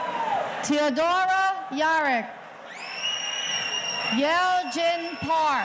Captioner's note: audience cheering